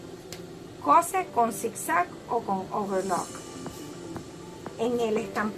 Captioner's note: serger